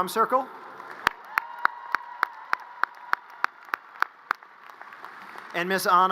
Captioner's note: audience cheers and applause